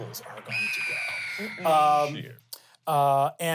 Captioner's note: eagles screeching